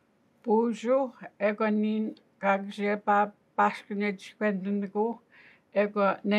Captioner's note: speaking Anishinaabemowin language